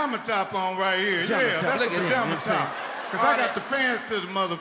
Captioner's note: audience laughs